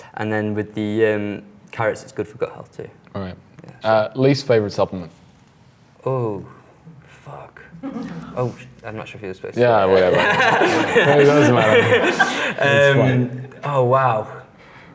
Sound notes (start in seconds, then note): 9.8 laughs